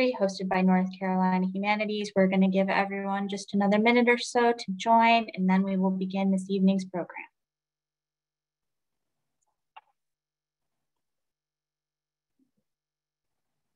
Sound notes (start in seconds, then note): none